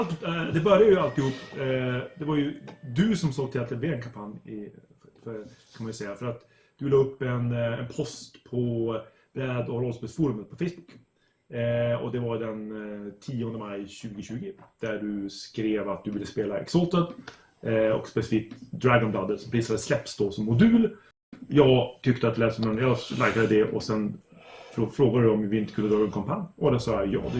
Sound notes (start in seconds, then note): 8.5 Swedish